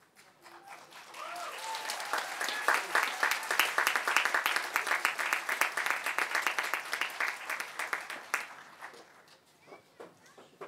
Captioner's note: applause